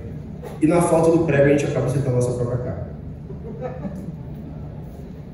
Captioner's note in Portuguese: Risada